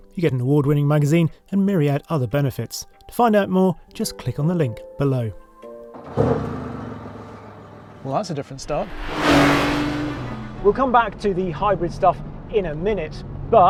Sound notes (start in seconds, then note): 5.8 engine purrs quietly; 9.2 car whines loud